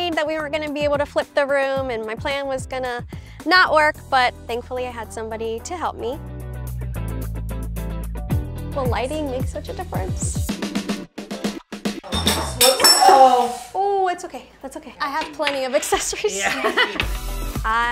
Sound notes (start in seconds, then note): 6.5 upbeat music continues; 12.0 glass clinks; 15.9 laughs; 16.3 upbeat music